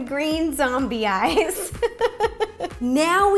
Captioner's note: laughs